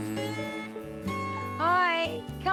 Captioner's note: buzzing